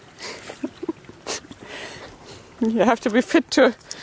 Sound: chuckling

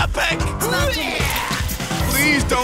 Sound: retching

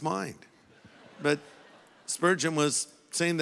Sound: audience laughing

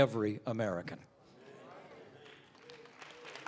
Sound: applause

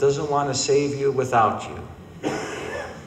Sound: coughing

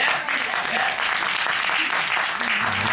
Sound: applause

